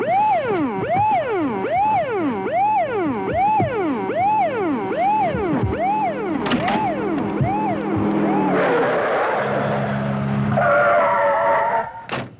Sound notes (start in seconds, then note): 2.4 cars rumbling; 8.5 tires screeching; 12.0 doors thudding